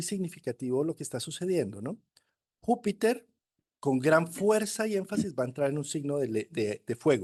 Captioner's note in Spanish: carraspeo